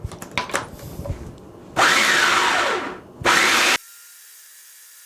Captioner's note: mixer sounds